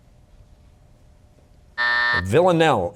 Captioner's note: buzzer